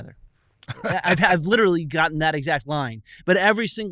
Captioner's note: laughter